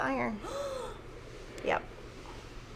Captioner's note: gasps